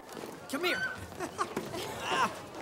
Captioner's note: girl yells playfully